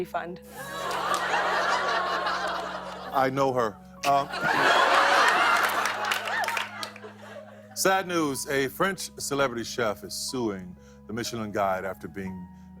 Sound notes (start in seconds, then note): 0.5 laughter